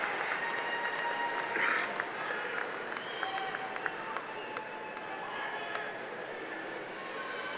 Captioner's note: applause